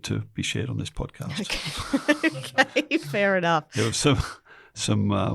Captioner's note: laughing